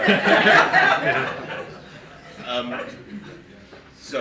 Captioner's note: group laughing